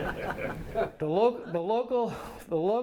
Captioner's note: light laughter